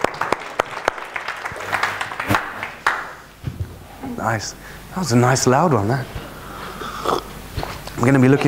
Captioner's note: applaud